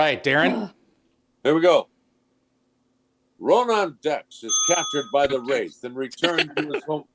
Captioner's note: ding